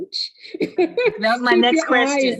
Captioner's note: laughing